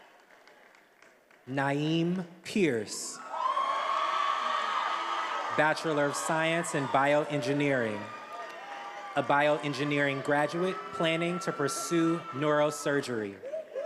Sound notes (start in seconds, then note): 3.7 attendees applauding and cheering